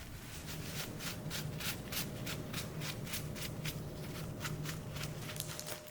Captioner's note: brush, brush, brush